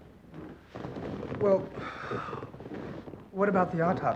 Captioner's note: sighs